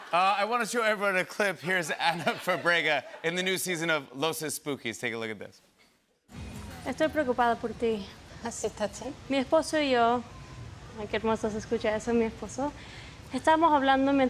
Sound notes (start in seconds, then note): 6.4 conversing in Spanish